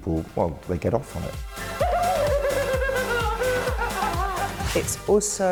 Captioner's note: laughing hysterically